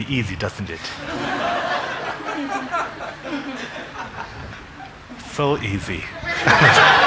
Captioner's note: congregation laughing